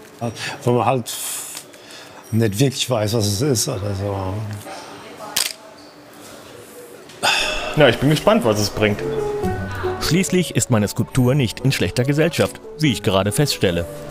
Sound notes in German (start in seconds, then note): 5.3 Klicken; 7.2 Seufzen